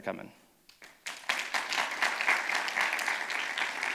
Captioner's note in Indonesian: tepuk tangan